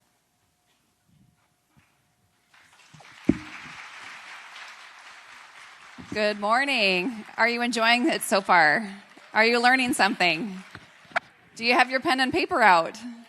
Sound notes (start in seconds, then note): 0.0 claps